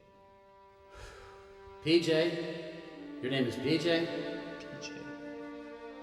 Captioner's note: sighing